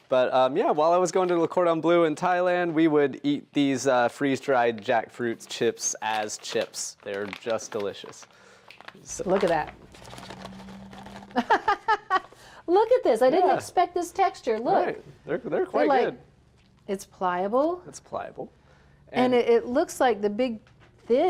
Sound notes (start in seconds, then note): 11.2 laughs